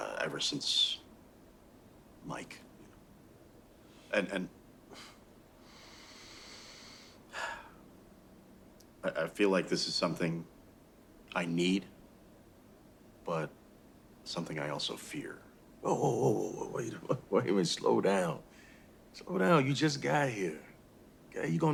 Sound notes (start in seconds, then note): 7.3 sighs; 15.8 laughs